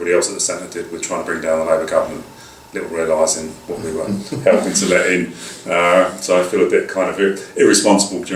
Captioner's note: laughter